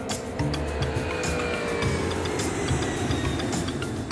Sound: plane engine roars

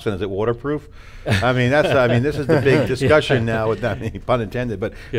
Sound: all laughing

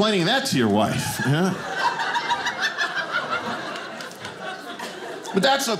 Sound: audience laughing

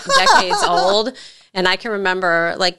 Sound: laughs

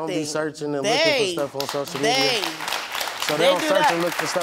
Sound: audience applauds

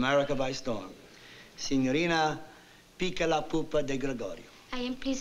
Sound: italian

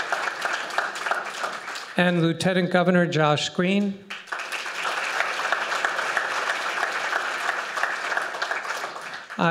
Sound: applause; applause

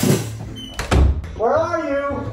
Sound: door creaks; door slams

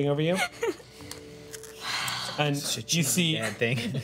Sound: laughing sob

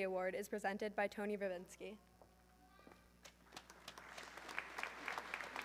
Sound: audience clapping

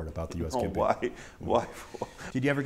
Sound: laughter

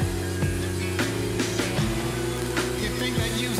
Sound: sander humming

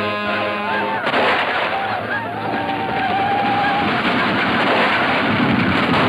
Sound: cowboys whooping; gunshots roaring

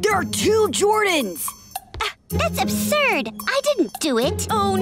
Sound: scoffs

